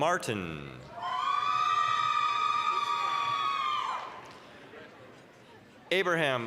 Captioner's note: applause, cheering